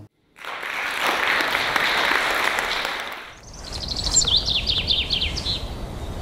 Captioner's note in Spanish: Aplausos